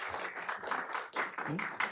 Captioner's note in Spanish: aplausos